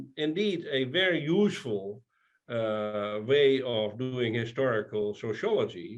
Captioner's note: none